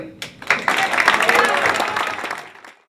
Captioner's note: cheers & applause